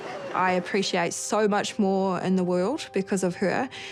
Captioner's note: chuckles